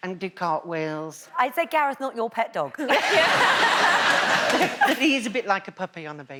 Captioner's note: laughs